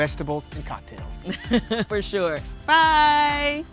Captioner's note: laughing